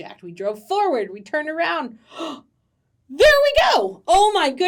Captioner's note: gasps